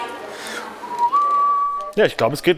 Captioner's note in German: Er pfeift